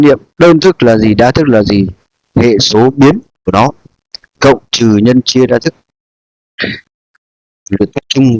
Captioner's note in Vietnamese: hắng giọng